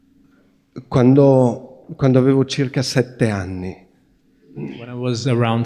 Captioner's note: questioner speaking Italian